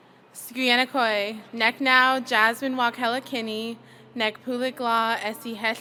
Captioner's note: speaking foreign language